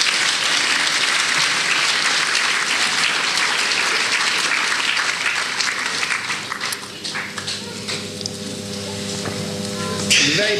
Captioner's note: applause